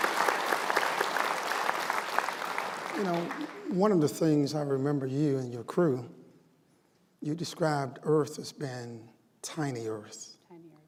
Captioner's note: applause